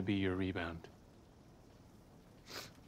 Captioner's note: sniffles